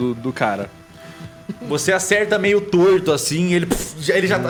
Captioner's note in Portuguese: poof